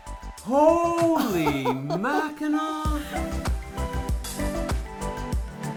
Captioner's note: mom laughs